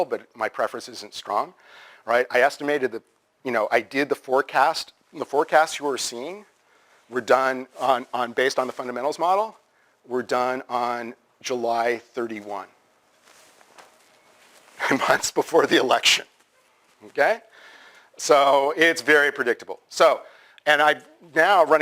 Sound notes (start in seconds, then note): 13.1 pause